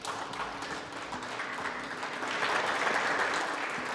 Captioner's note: clapping